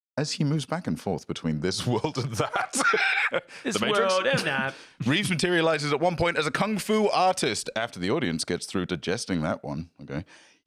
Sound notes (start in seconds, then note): 1.8 laughs